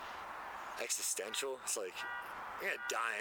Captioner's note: car alarm